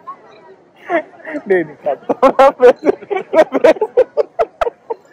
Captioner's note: laughs; laughs